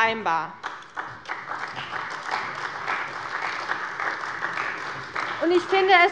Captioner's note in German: Beifall bei Abgeordneten der CDU